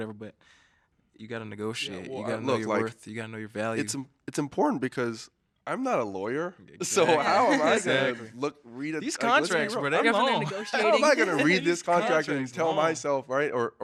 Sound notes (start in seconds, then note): 6.8 all laughing